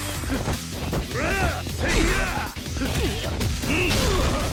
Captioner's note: Kazuma grunting